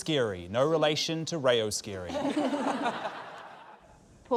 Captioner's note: laughter